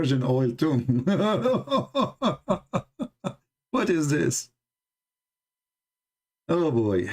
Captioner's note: Ketawa